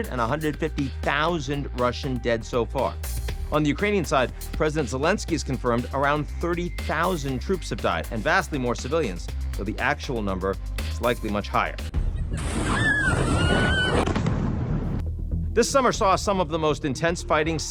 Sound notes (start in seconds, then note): 12.0 explosion booming; 12.4 people screaming